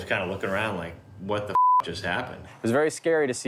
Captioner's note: beep